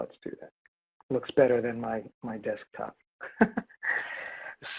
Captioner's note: laughs